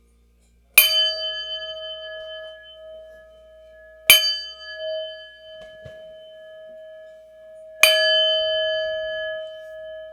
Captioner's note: bell rings